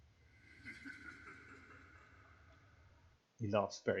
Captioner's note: evil, demonic chuckle